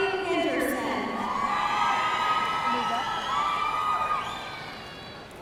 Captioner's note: audience cheering